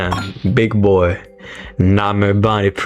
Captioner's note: inhales Oxygen